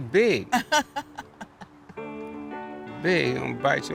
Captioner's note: laughing